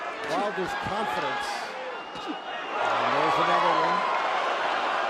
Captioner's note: cheers